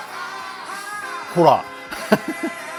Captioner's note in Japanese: 笑い